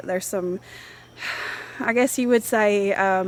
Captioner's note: heavy sigh